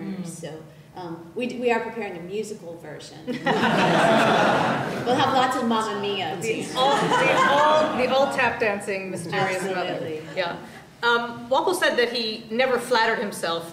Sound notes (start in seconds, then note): 3.2 laughter